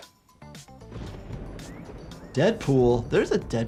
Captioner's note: upbeat music; thunder rumbling; person wolf-whistles